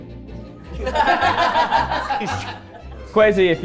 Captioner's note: everyone laughing